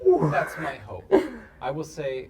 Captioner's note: laughs